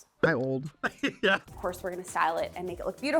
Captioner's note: person offscreen laughing